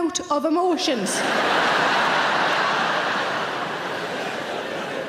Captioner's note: audience laughing